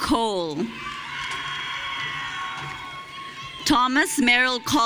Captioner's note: audience cheering